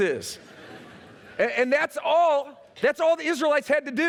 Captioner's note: laughter